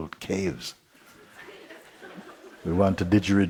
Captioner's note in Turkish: Kahkaha